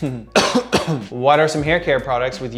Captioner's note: coughing